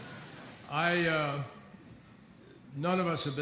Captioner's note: laughter